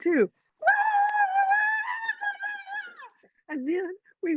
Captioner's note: screaming